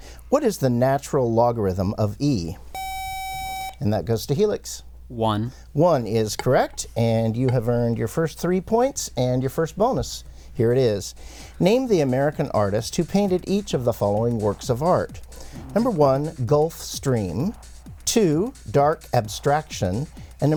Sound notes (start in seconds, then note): 2.7 buzzer